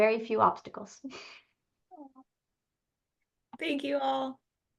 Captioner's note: laughs